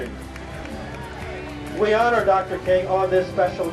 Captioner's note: applause